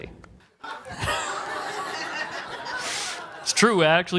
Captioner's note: laughing